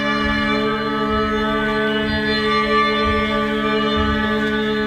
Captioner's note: rhythmic stomping